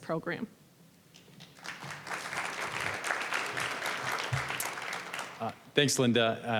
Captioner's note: applause